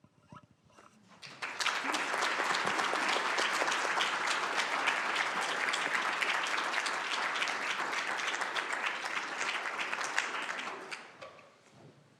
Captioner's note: applause